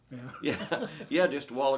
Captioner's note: laughs